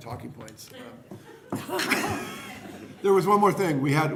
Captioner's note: laughter